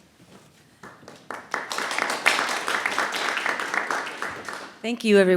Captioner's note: audience applauding